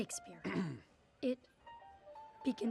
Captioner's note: clears throat